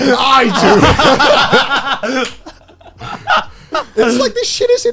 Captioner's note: all laughing